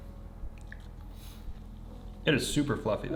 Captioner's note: chewing